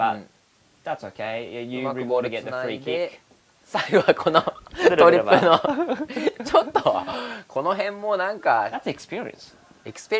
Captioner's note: laughs